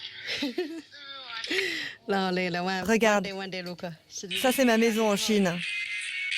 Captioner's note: child speaking foreign language; chuckling and speaking foreign language